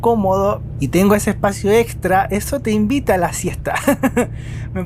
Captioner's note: laughs